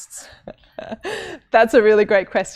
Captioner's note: laughs